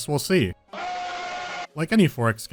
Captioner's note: loud scream